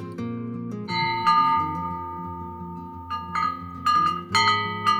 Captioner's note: wind chime ringing